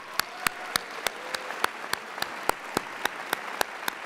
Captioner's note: audience applauds